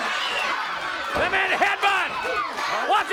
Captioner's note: crowd cheering